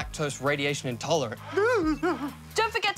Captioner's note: whimpers